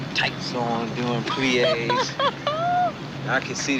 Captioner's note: laughs